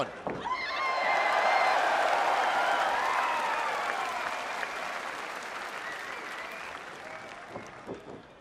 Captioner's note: cheers & applause